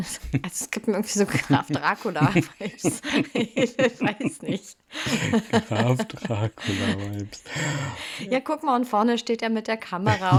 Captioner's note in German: gelächter; gelächter